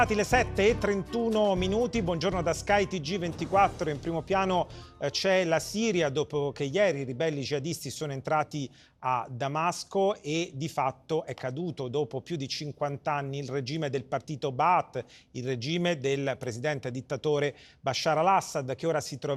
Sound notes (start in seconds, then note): 4.4 Italian